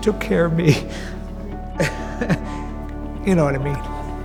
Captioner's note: laughing